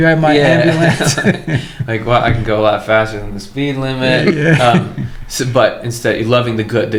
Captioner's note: laughter